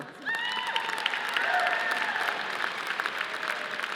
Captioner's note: audience applauding